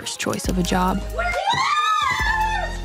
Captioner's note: cheering